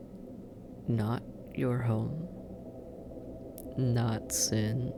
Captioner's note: hesitant